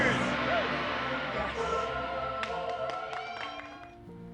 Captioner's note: clapping and cheering